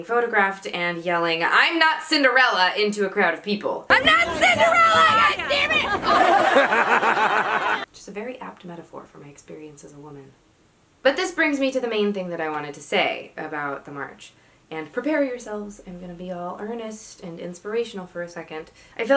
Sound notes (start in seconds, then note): 6.3 laugh